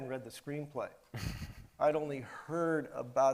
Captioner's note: chuckles